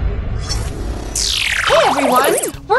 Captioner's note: computerized noises